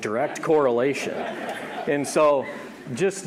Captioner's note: audience laughing